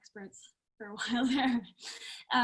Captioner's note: laughs